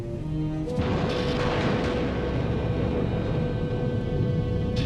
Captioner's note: lightning crashing